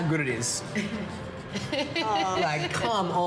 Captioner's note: laughing